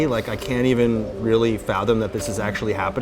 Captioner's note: none